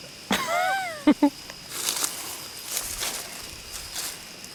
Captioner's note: laughing